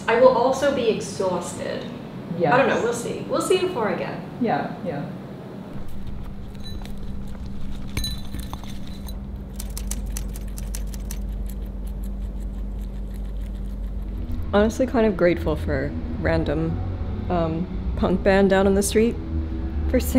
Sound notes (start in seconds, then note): 8.3 food bowl clinks; 9.5 typewriter clacks; 12.0 guinea pig munches